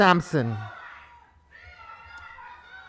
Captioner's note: protestors interjecting